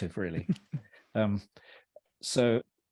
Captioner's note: laughs quietly